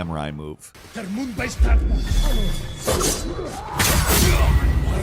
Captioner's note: swords slashing